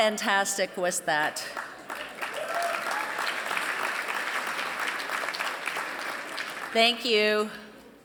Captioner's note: applause